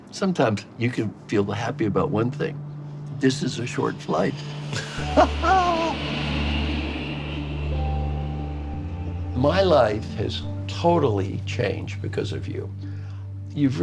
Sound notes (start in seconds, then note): 4.7 laughing; 6.0 inspiring music